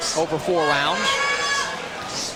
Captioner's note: yelling from audience